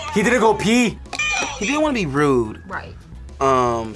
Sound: buzzer rings

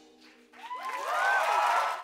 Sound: applause

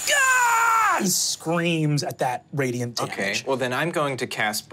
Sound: screams in pain

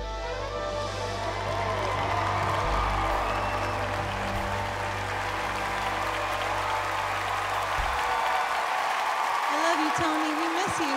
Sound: cheers and applause

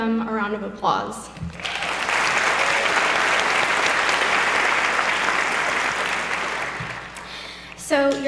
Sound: applause

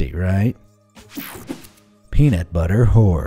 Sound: image whooshing

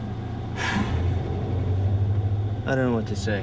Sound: exhales heavily

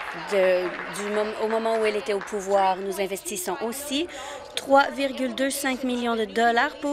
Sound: applause

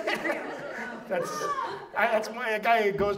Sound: audience laughs

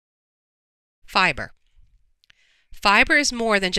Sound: voiceover

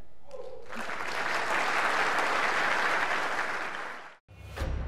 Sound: audience applauds; intense percussive music

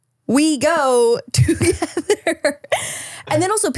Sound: laughs

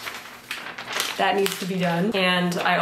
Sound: paper fluttering

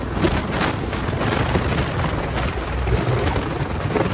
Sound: blades whirring

